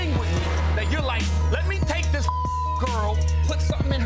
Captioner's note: beep